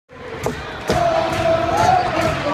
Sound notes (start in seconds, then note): 0.1 chanting